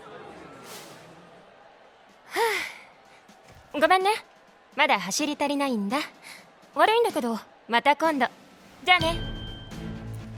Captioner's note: sigh